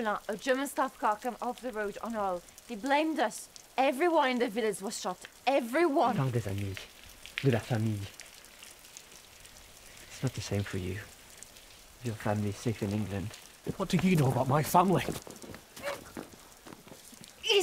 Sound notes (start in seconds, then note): 5.5 Anatole speaks in French